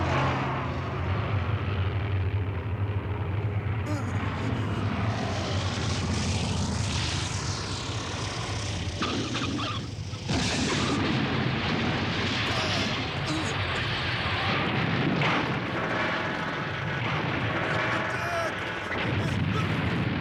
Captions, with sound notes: (NERVOUSLY SIGHS) (GRUNTS) Hit the deck! (GRUNTS)